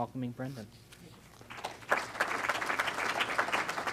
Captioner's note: clapping